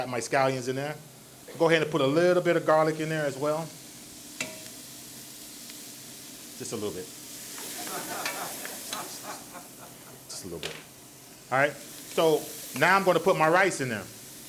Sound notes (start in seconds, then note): 5.9 ingredients sizzle; 9.6 audience laughs